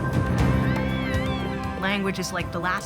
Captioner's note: squealing